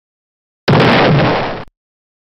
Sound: explodes

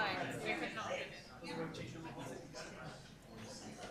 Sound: group chatter

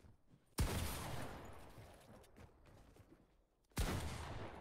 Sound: gun firing loudly

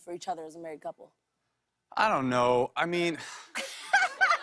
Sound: sighs

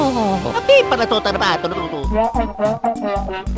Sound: italian gibberish

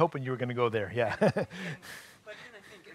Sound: chuckling

